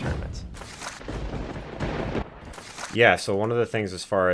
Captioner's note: thunder rumbling